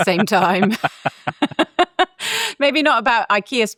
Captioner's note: laugh